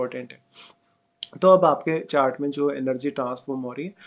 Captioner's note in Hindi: नाक से की जाने वाली आवाज़